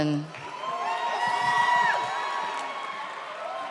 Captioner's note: audience cheers